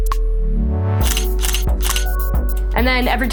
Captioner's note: camera shutter clicking